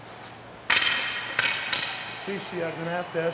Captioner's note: sledgehammer thuds